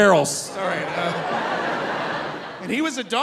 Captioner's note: audience laughing